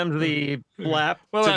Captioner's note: laughing